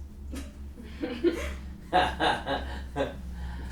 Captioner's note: group laughing